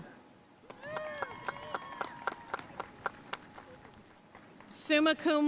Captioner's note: audience cheering and applauding